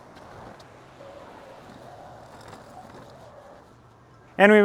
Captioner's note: wind blowing